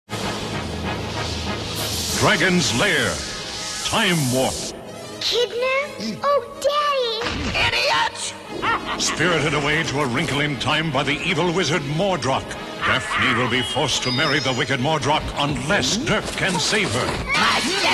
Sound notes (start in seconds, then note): 8.5 laughs maniacally